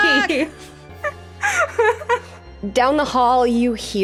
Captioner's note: laughing